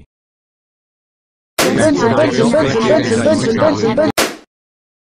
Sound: clashing yelling

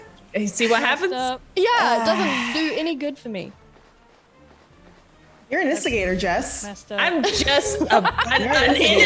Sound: laugh

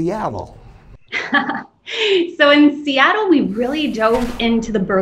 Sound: chuckles

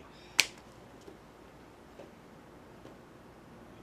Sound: man sighs

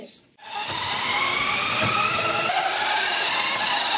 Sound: car driving

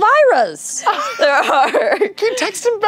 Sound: laughing

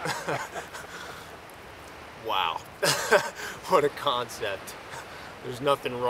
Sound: laughs

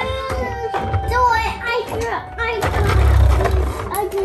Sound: children babbling

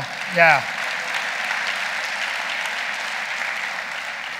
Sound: audience applauding

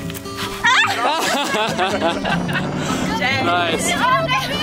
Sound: all laughing

